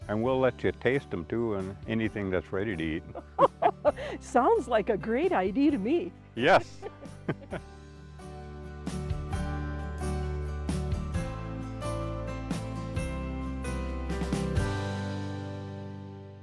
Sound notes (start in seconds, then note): 3.1 chuckle; 7.9 light music